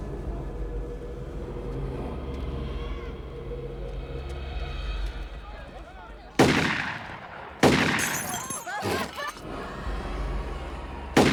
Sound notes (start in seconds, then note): 6.3 shots firing; 7.8 glass shattering; 8.6 clamoring